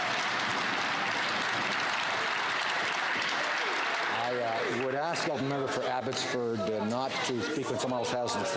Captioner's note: some Applause